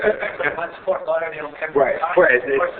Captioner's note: laughing